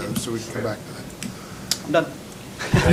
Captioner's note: laughter